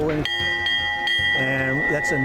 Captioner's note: bell rings